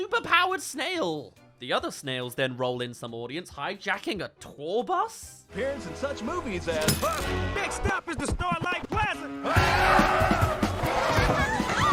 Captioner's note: screeching* *Screams